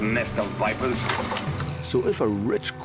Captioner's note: clattering